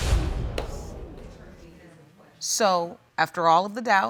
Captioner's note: audience murmuring